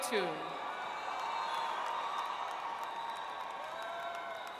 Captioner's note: audience cheers